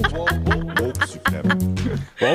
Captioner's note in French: effet sonore